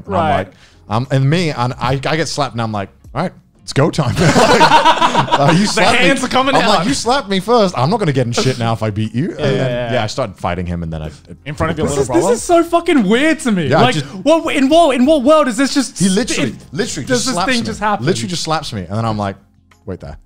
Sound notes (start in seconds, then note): 4.2 laughing